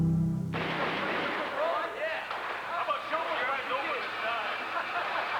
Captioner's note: gunfire on videotape